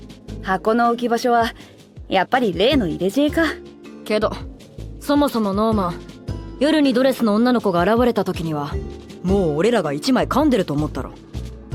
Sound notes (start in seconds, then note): none